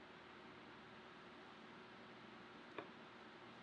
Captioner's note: none